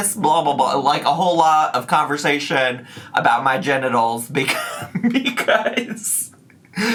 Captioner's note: laughs